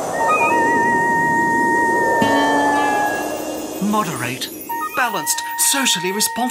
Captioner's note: whistle blows